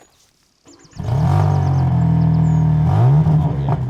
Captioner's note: engine starts